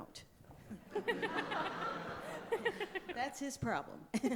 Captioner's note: audience laughing